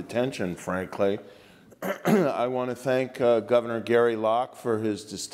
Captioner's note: cough